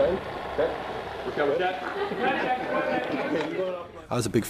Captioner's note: laughter, indistinct conversations